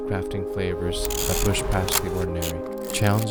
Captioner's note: camera mechanisms rattling